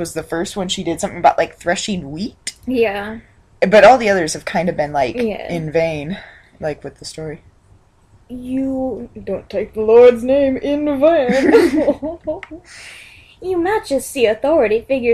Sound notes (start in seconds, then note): 11.3 chortles like a baron